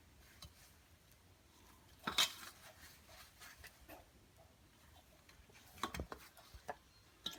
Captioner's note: dough kneading